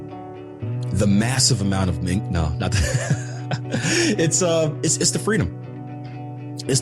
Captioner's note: laughs